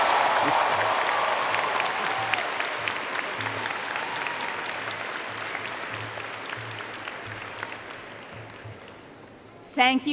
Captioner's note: applause